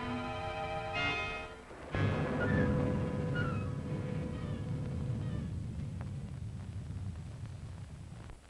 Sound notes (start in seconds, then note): 1.8 pensive music; 1.8 thunder rumbling